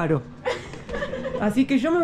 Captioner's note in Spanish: Risas